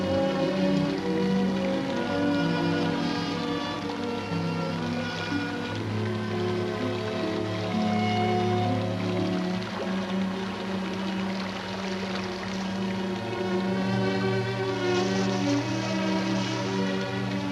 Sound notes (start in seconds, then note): 0.1 ominous music; 0.5 sewage flowing